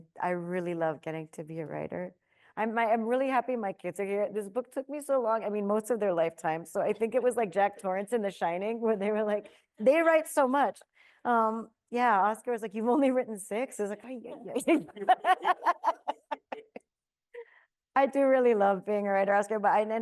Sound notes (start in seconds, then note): 14.3 laughs; 14.6 everyone laughing